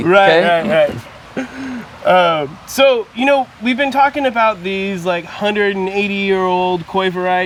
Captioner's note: laugh